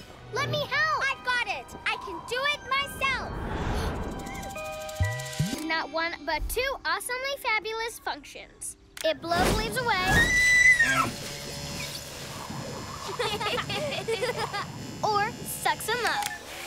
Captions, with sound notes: - Let me help! - I've got it! I can do it myself! Not one, but two awesomely fabulous functions. - It blows leaves away. - (Shrieks) (Laughter) Or sucks 'em up!